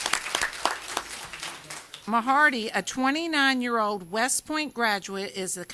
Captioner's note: applause